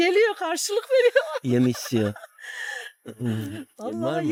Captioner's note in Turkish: kahkaha